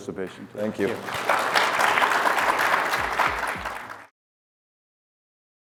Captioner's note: applause